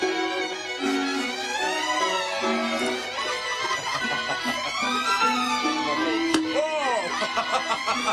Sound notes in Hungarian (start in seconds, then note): 2.6 nevetés; 6.8 kacagás